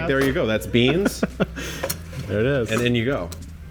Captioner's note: laughs